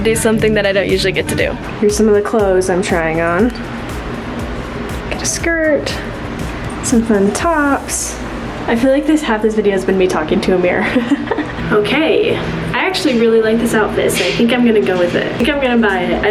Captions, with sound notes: to do something that I don't usually get to do. Here's some of the clothes I'm trying on. Got a skirt, some fun tops. I feel like half this video has been me talking to a mirror (laughs) Okay. I actually really liked this out this outfit. I think I'm going to go with it. I think I'm going to buy it.